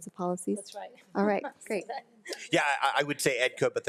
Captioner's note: laughs